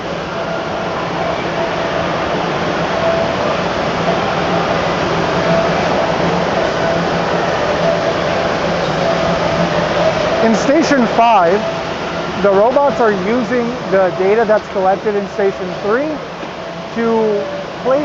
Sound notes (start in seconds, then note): 2.2 factory noises